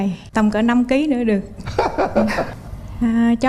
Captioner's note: laugh